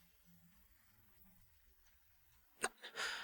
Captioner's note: cough